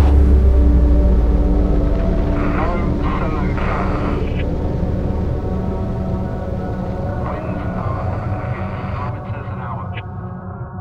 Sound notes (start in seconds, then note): 2.9 voice speaking faintly on the radio; 7.1 voice on the radio; 7.9 signal crackles